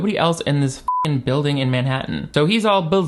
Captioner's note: beep